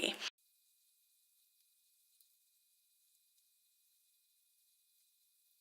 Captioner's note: silence